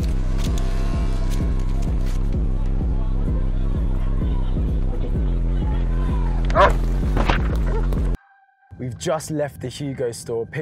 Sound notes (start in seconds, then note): 1.6 chatter; 6.5 bark